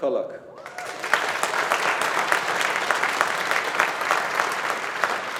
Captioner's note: audience applauding